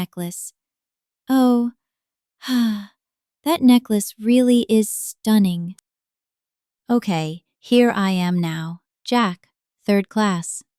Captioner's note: sigh